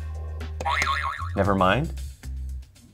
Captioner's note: springing sound